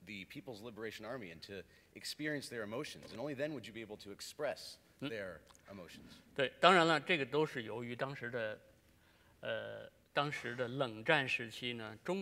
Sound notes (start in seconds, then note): 8.1 speaking in Chinese